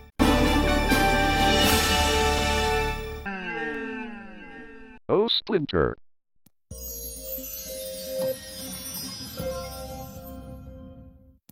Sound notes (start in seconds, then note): 0.1 orchestral music continuing; 3.7 echoing; 6.7 magical music plays